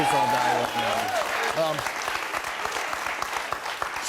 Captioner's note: audience clapping